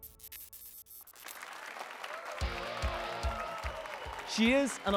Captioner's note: applause and cheers